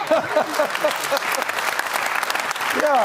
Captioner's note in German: Lachen; lacht